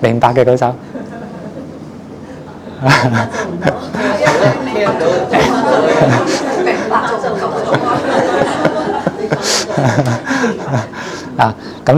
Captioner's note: 笑聲; laughing